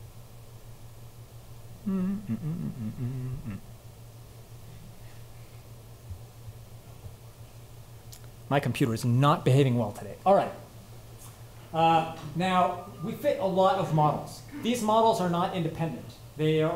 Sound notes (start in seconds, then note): 1.8 hums